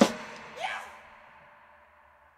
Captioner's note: animal scream